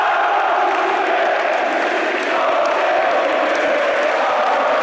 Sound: fans chanting

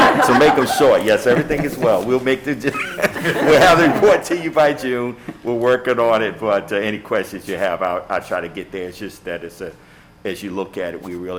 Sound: laughter

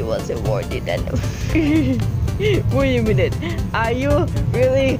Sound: laughed

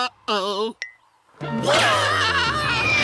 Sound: screaming

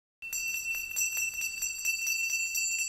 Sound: ding Dong sounds

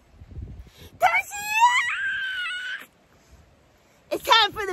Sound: screams

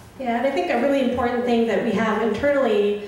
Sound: voiceover

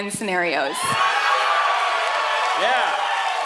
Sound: audience cheering

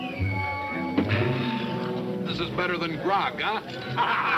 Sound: sighs; laughing

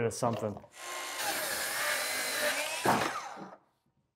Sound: saw buzzing

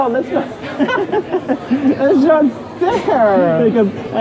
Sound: laughing

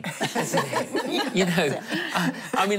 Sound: laughing

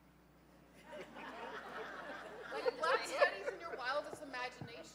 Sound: laughing

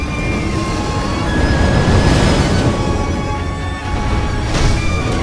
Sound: fire roars

